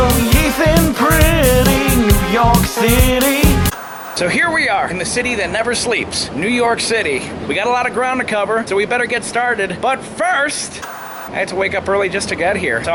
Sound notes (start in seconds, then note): 3.6 white noise scratching; 10.8 white noise scratching